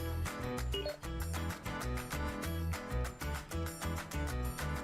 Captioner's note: computer dings